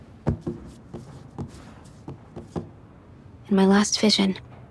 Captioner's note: thing thudding